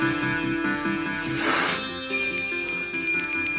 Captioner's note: sniff; bell Jingles